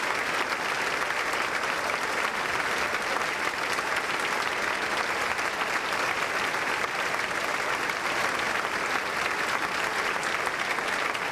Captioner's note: applause